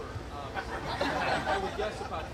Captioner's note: group laughing